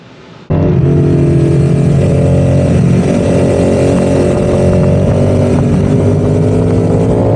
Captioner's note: engine revving